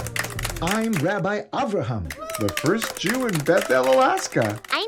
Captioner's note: applause from the audience